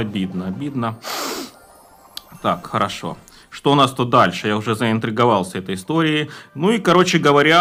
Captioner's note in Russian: фыркает